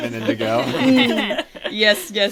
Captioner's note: laughs